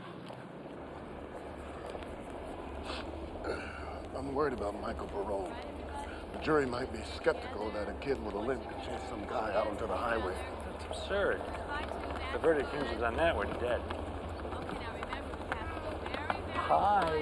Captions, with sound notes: (feet clacking) (people chattering) - (clears throat) I'm worried about Michael Pirone. The jury might be skeptical that a kid with a limp could chase some guy out onto the highway. - That's absurd, the verdict views on that were dead. - Okay, now remember- - Hi.